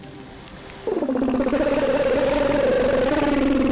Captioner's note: gurgling